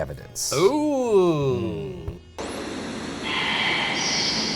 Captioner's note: static buzzes